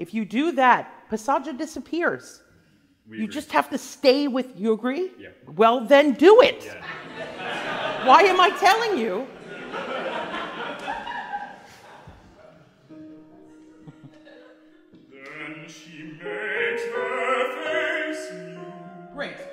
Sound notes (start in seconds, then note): 6.6 class laughs; 12.0 classical piano music